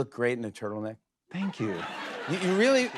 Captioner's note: laughter